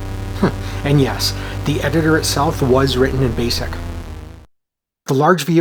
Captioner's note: chuckles